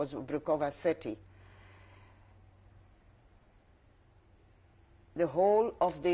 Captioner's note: pauses for 3 seconds